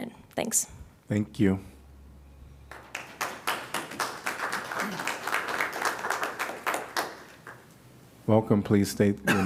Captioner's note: applause